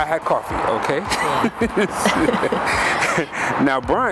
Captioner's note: both laugh